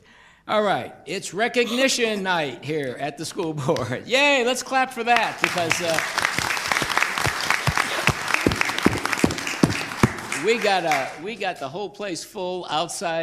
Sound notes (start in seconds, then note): 5.1 applause